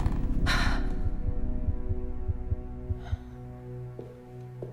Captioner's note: Elizabeth sighs